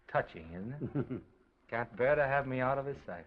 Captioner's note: Oliver laughs